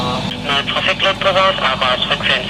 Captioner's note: Danish